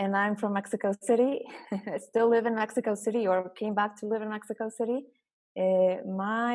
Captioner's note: laugh